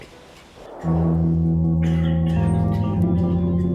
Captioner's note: coughing